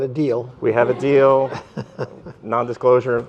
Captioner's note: laughter